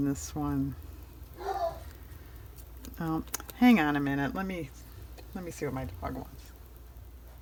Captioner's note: dog barks